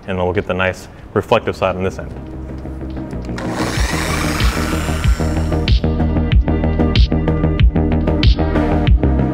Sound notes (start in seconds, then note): 3.3 15DA whirring; 4.9 easygoing digital music